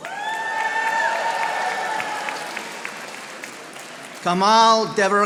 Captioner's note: audience applauding